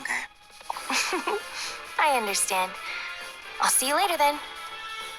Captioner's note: giggle